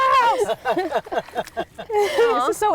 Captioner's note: people laughing